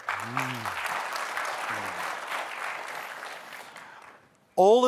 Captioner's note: applause